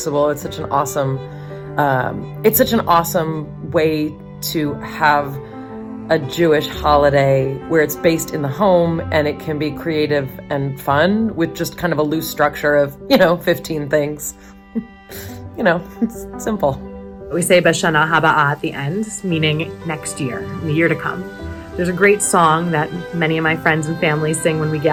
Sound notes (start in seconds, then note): 18.0 speaks in foreign language